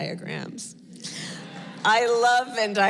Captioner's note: laughter